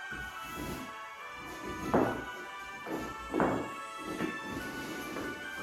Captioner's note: christmas music playing; wood banging gently